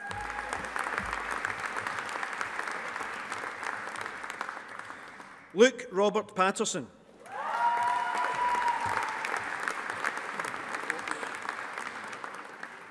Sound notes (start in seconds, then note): 0.0 audience applauding; 7.2 audience applauding